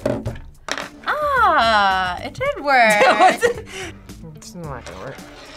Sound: laughs

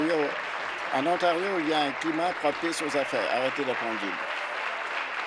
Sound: applause

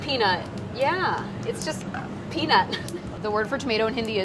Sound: laughs

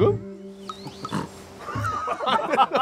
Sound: snorts

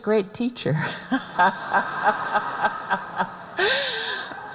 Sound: laughter

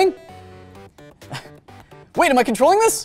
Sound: laughs

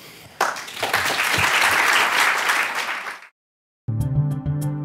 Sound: clapping; gentle music

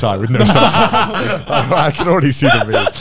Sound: everyone laughs

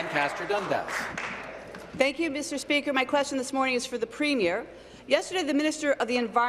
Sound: applause

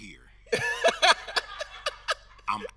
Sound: everyone laughing

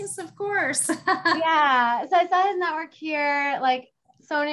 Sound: laugh

